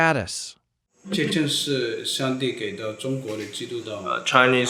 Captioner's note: foreign Language